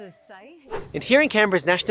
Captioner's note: air whoosh